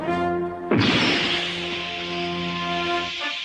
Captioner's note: punch followed by a hissing puncture